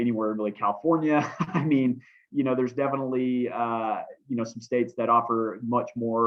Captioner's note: laughter